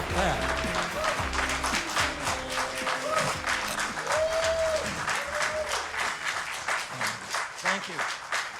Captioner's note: crowd whooping